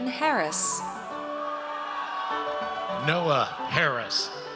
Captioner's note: audience cheers